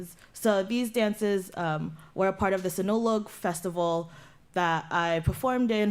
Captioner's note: non-english